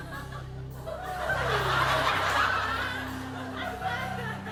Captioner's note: laughter